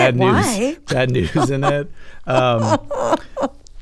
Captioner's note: laughter